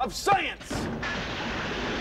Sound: <i> crash</i>

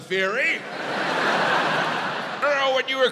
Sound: audience laughs

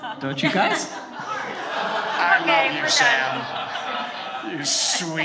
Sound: all laughing

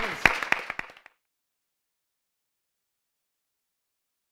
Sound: audience applauds

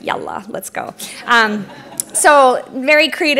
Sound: laughter

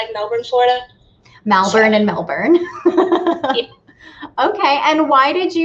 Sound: laughs

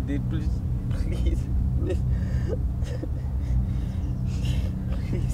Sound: cries

